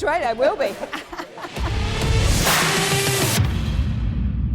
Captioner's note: laughs